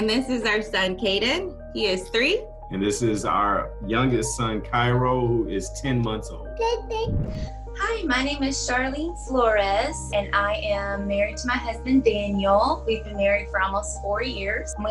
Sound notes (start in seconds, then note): 6.6 babbling